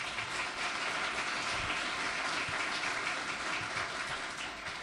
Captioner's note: audience applauds